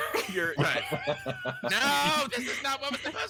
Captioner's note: group laughing